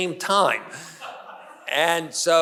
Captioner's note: audience member laughs